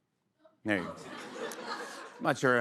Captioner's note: laughter